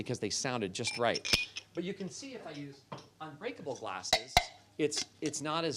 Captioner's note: clinks glasses